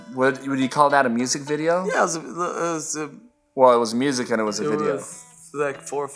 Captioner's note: stuttering